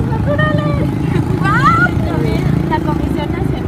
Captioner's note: lauther